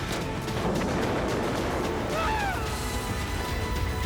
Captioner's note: screams